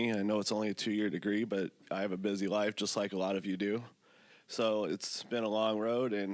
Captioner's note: none